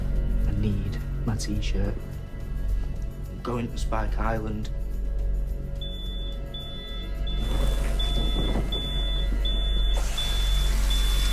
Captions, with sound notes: I need my T-shirt. I'm going to Spike Island. [beeping]